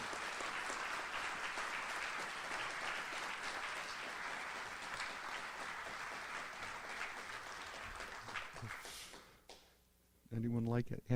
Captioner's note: audience applauds